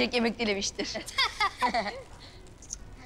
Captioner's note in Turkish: Gülüşmeler